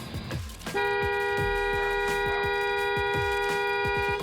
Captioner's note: long single car horn